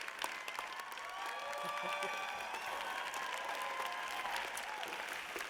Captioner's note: audience cheers